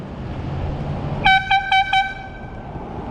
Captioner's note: air horn